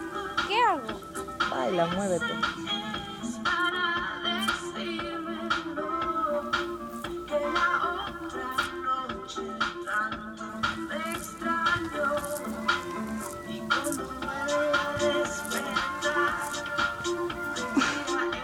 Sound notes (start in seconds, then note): 0.4 Cristy speaks in Spanish; 1.6 Mateo speaks in Spanish; 13.6 relaxing Spanish music continues